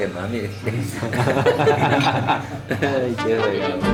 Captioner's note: laughter